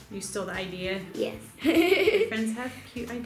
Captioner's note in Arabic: يضحك